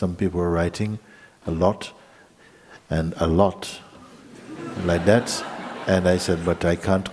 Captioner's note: laughter